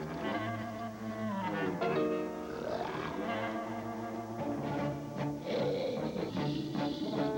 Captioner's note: snort